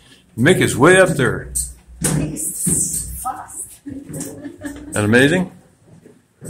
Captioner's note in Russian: разговор на английском